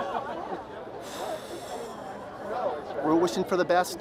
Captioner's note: exhales